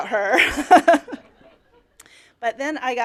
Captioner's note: laughter